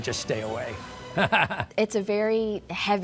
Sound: laughing

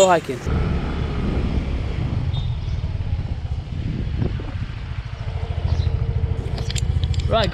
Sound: motorbike engine

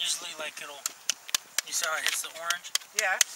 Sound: tapping

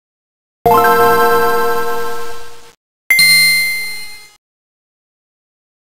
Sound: 16-bit game sounds

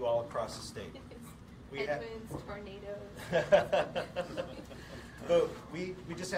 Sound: laughs

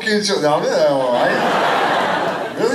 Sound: laughter

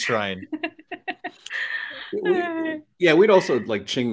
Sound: laughs

